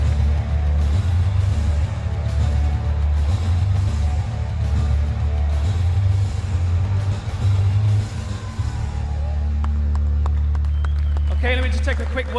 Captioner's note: cheers and applause